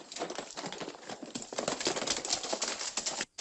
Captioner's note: horses trotting